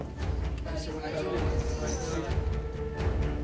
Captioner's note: indistinct chatter